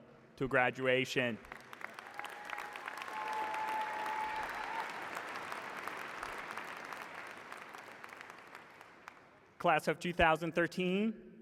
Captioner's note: cheers and applause